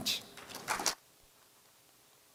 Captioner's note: applause